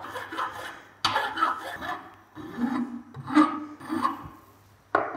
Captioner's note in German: Feilgeräusch